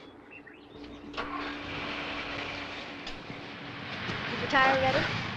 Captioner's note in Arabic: هدير محرك السيارة